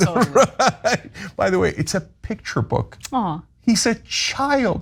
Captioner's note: laugh